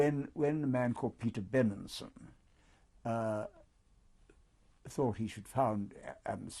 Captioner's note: pauses for 3 seconds